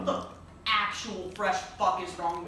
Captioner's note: mouth noises